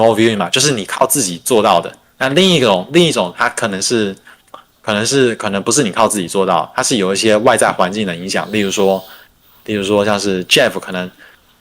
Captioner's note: non-english speech